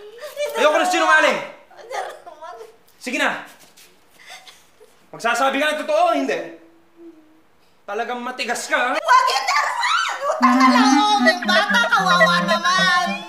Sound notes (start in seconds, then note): 3.7 Ling sobs; 6.9 Nina whimpers